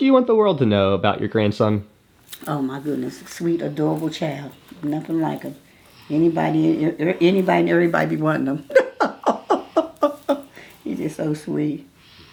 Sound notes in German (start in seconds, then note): 10.0 lacht